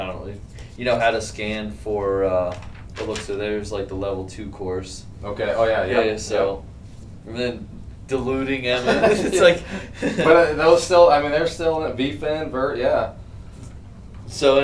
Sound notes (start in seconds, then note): 8.7 both laugh